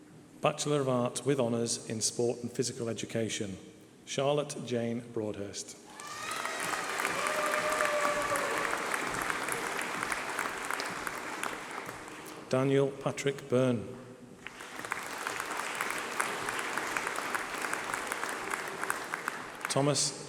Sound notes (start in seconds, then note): 4.0 applause